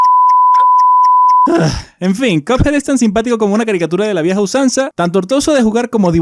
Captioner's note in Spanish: Suspiro